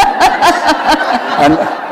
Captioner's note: laughter